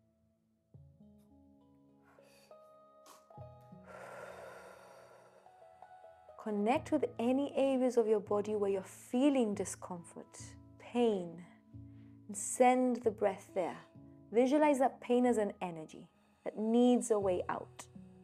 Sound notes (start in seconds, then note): 3.8 exhaling